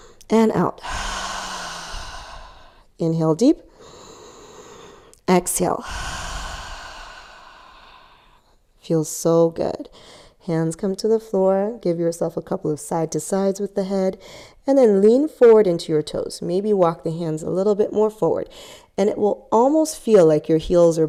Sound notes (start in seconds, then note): 0.0 inhales; 0.8 exhales; 5.8 exhales; 5.8 inhales